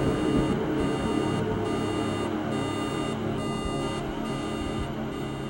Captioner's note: ominous music; thunder and electronic beeping